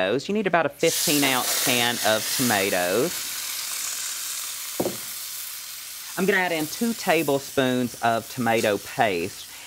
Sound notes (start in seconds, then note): 3.5 sizzle